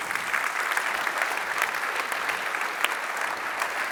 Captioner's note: applause